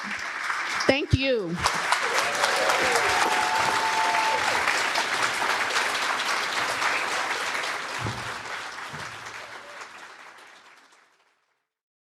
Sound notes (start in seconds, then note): 1.8 cheers and applause